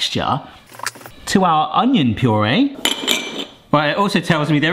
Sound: glass bowls clink

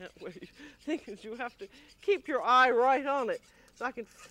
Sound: laughing

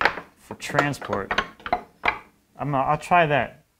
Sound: wood rattling

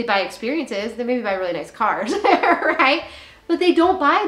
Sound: laughs

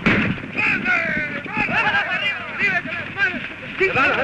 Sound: Spanish spoken audio

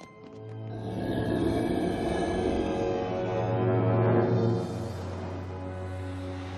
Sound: growling

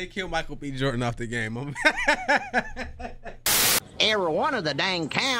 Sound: laughing

